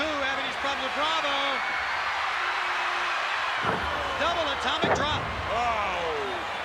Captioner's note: applause